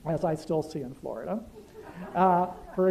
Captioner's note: laughter